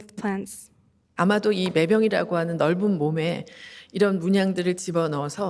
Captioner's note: speaking Korean